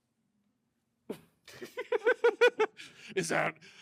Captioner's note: laughter